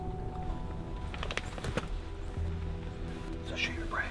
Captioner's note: equipment rattling